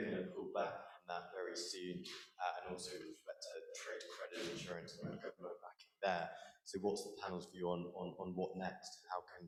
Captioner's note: voice trails